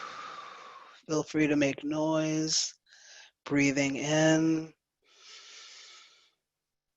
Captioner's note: breathes